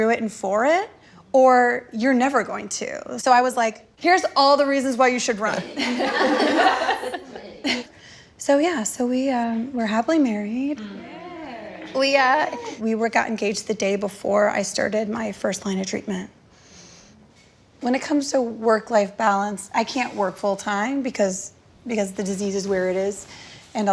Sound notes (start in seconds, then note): 5.5 group laughing; 10.7 group cheering